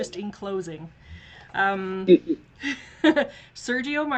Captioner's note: laughs